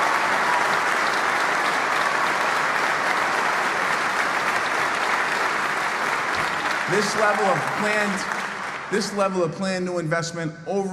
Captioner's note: applause